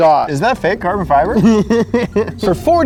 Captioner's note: laughing